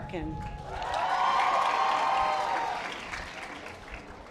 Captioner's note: audience applause